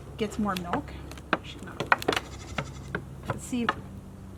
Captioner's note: goat stomping